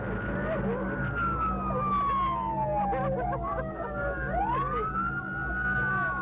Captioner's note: sirens blaring; driver sobbing